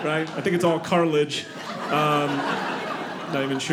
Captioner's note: audience laughing